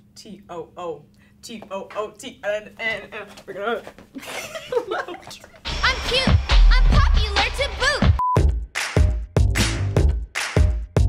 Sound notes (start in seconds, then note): 4.1 laughing; 8.4 upbeat music